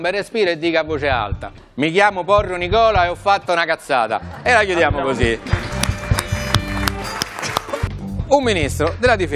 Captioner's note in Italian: Applauso